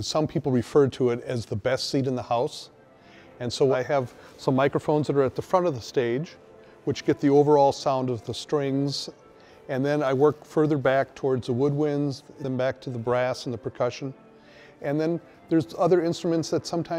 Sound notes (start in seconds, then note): none